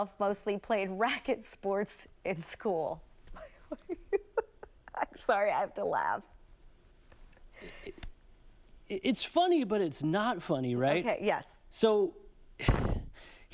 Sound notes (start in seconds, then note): 5.3 laughter